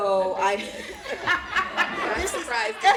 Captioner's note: laughter